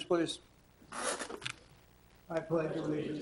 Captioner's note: chair squeaks